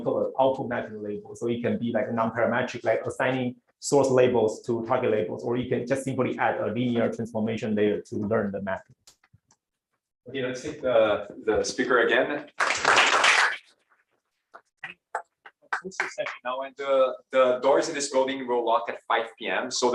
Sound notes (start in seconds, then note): 12.5 applause